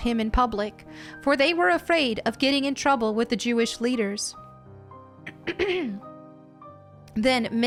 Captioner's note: throat clearing noise